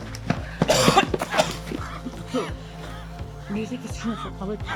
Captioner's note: Henry coughing